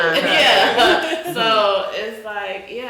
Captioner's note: all chuckle